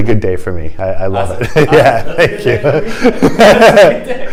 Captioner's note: laughter